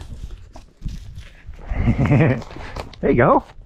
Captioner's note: laughter